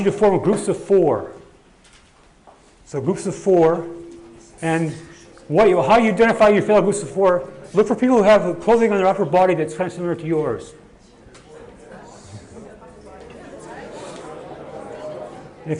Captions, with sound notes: And I want you to form groups of four. So groups of four and how you identify your groups of four, look for people who have clothing on their upper body that's kind of similar to yours. (audience murmuring)